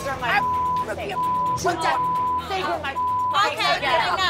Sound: beep

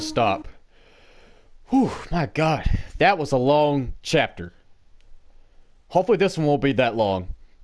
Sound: big deep breath

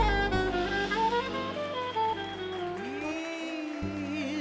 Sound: audience cheers and applauds

